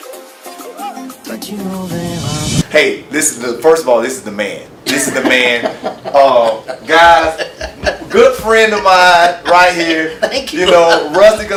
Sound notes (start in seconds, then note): 4.8 laughs